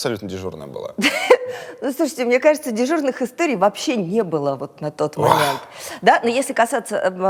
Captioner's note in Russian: Прыскает